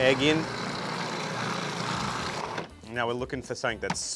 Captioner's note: blender whirring